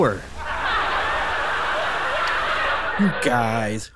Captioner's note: laughter